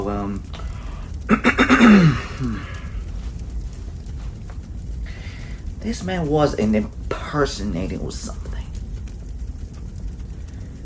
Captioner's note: clear throat